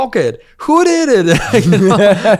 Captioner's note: laughs